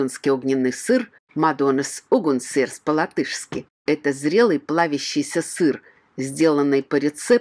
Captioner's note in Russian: по латышки